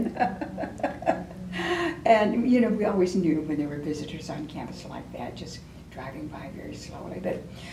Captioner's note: laughs